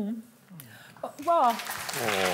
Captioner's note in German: Beifall